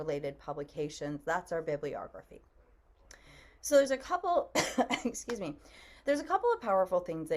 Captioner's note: coughs